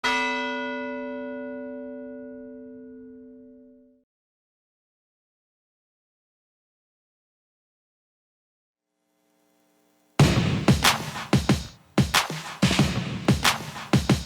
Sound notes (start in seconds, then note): 0.5 bell rings; 10.2 upbeat, percussive music